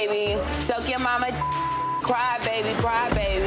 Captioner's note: beep